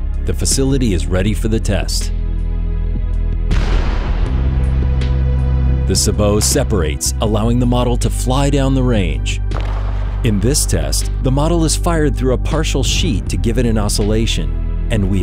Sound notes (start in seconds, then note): 3.5 gun fires; 9.5 pop sound